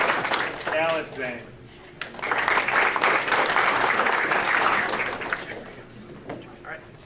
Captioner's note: audience applauding